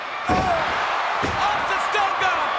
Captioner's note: bodies thudding